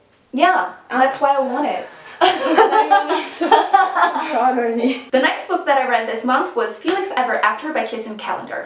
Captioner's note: laughter